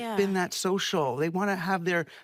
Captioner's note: none